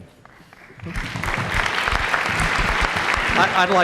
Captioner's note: applause